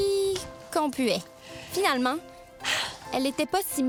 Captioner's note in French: soupir